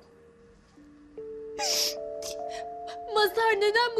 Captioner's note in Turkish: Ağlama sesi